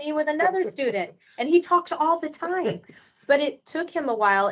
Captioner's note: laughing